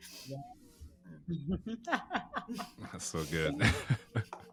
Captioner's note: laughing